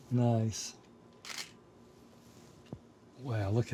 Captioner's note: camera clicking